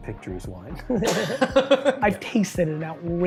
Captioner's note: laughing